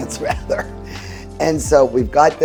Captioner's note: laughing